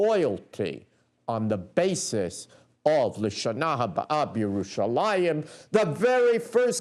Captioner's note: non-english speech